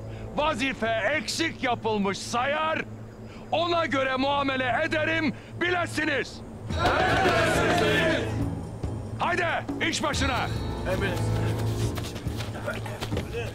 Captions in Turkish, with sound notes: ...vazife eksik yapılmış sayar... ...ona göre muamele ederim, bilesiniz! (Hepsi bir ağızdan) Emredersiniz beyim! Hadi, iş başına! -Emredersin. -Emredersin.